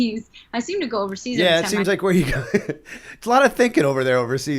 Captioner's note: chuckle